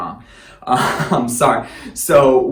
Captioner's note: laughing